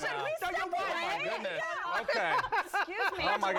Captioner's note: all laugh